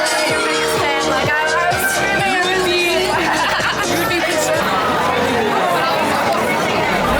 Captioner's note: laughing